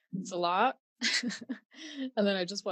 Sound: laughing

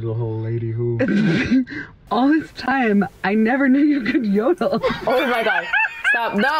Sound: laughs

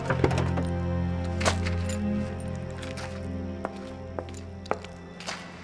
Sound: door opens; footsteps approaching

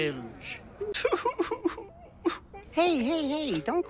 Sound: sobbing proceeds once more

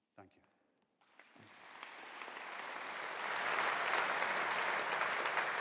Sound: audience applauding

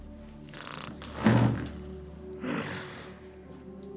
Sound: snoring

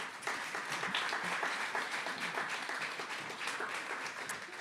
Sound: applause

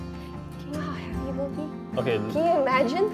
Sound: whispers

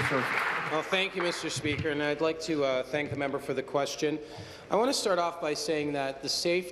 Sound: applause

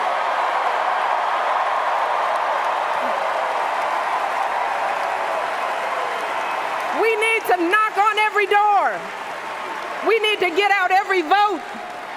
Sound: cheers, applause

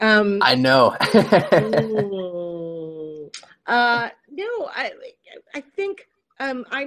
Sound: laughs

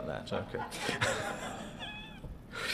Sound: laughter

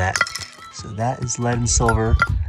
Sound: hammer clinking

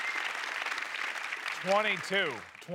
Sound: applause

